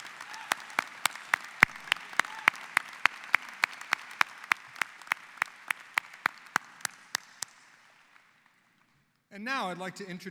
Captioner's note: applause